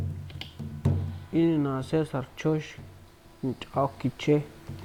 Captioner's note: hablando en kichwa